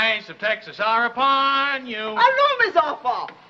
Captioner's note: speaking in french